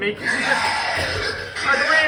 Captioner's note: demonic growling